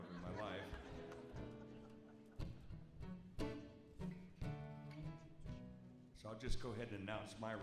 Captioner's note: audience chuckles; gentle guitar music